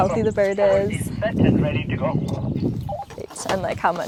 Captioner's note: radio transmission